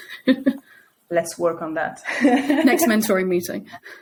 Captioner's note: chuckles; chuckling